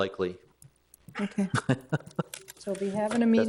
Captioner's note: laughs